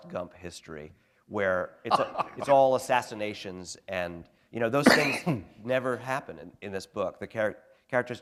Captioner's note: chuckle